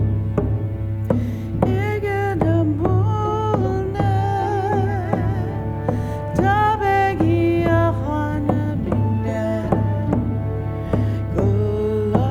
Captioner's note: In Mi’kmaq